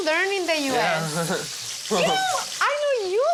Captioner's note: laughs